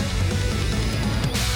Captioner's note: an echoing clap